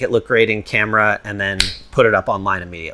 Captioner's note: finger snapping